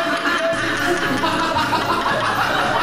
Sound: audience Laughing

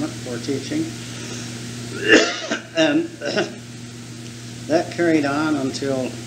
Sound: coughs

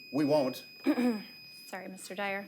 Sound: timer beeps; clears throat

